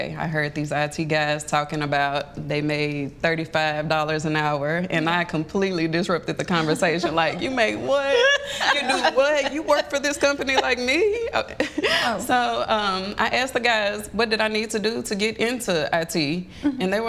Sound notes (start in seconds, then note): 11.5 chuckles